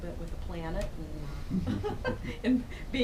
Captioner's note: laughs